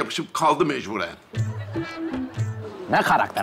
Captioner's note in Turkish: Gülme efekti